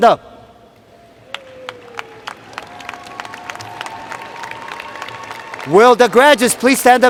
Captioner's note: cheers and Applause